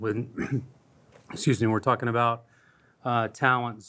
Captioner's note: coughs